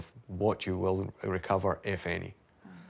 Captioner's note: none